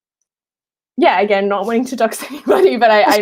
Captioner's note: laughing